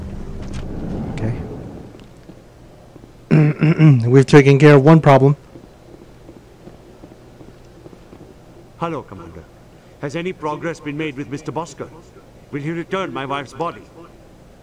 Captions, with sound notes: okay (Clears throat) We've taken care of one problem.